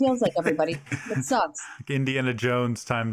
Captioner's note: Alex laughing